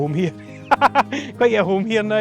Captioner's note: laughs